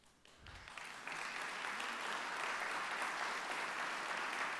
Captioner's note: applause